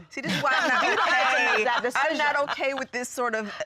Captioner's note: everyone laughing